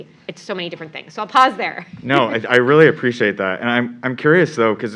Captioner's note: laugh